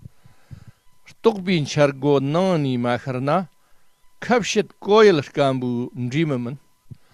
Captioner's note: tibetan